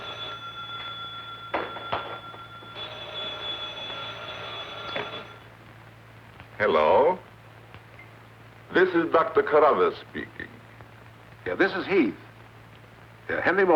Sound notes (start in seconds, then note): 0.0 phone rings